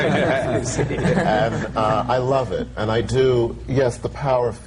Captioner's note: laughter